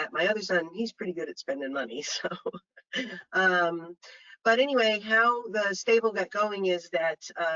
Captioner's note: chuckles